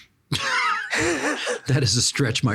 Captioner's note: laughing